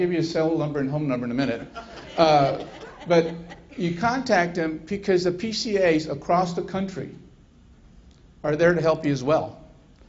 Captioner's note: laughter